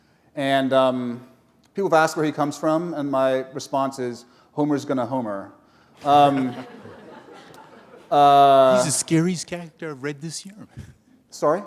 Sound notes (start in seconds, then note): 6.0 laughter